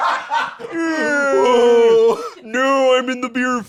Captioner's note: laughing; both fake-yawning